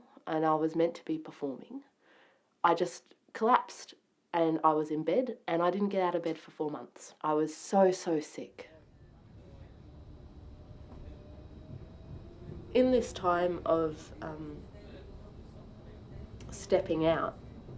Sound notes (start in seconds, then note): 8.8 tram starting off